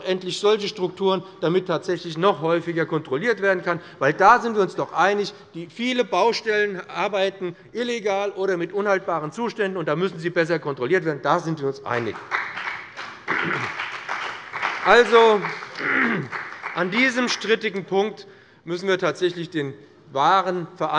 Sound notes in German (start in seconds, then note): 11.9 Beifall bei dem BÜNDNIS 90/DIE GRÜNEN und der CDU